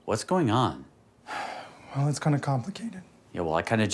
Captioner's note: exhales